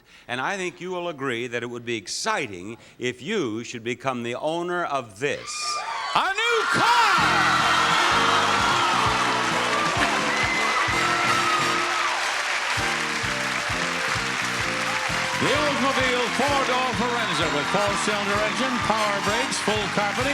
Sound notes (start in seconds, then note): 7.6 audience applauding; 7.6 upbeat music